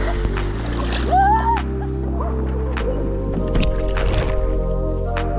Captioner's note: laughs; shouts